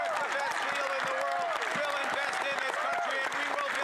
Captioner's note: cheers & Applause